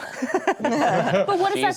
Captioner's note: all laughing